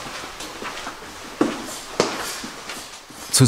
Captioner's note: clattering sound of footsteps